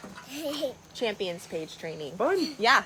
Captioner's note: chuckling